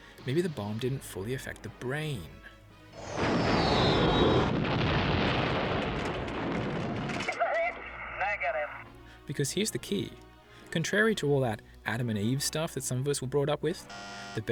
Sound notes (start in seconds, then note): 2.9 earth-shattering kaboom